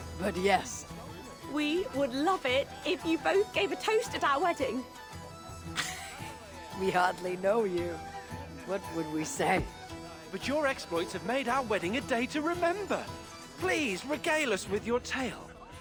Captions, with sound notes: ...but yes. We would love it if you both gave a toast at our wedding! (laugh) We hardly know you! What would we say? But your exploits have made our wedding a day to remember! Please, regale us with your tale!